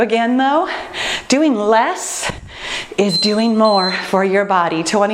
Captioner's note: timer beeping